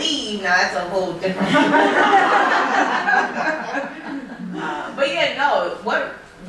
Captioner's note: laughter